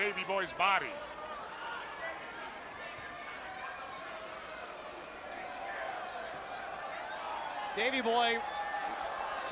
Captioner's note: crowd chatter